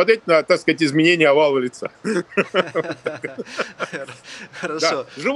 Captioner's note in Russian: смех